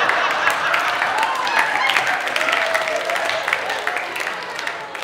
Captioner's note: audience laughing